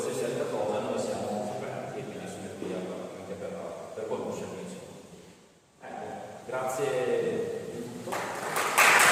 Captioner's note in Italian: Applauso